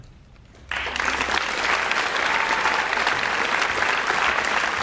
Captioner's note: audience applauds